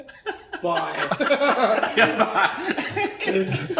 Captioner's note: laughing